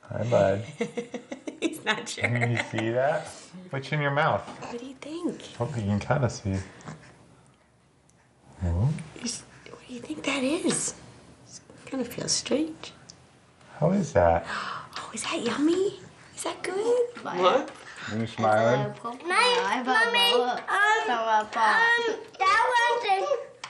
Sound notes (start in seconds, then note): 1.0 laughs; 15.3 gasps; 18.4 family chatting